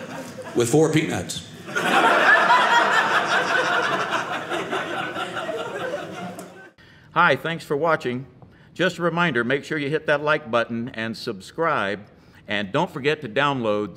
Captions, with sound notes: --with four peanuts. (audience laughing)